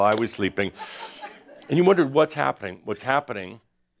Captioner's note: some chuckles